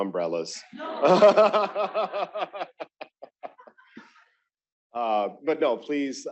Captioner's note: laughter